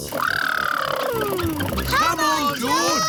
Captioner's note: makes sputtering noises